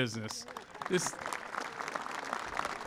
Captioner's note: applause